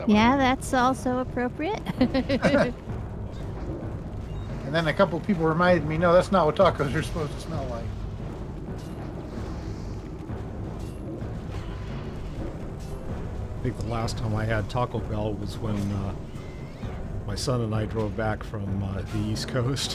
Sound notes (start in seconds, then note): 1.8 laughter